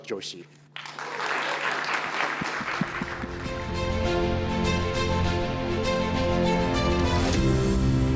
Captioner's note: applause